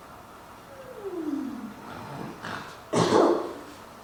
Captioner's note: fairies snoring